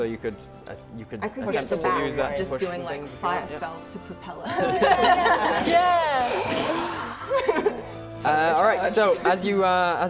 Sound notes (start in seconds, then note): 4.5 laughing; 6.2 flame thrusters